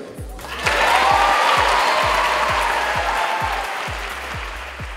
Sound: audience chapping and cheering

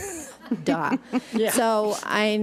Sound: audience laughs

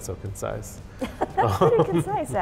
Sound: laughs

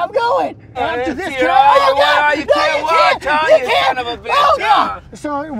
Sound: both yelling

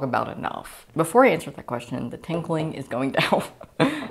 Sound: laughing

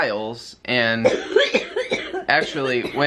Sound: coughing

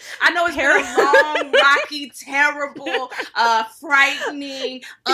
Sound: laughing

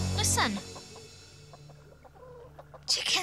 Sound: chickens clucking

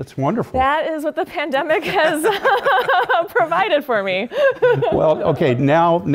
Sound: laugh

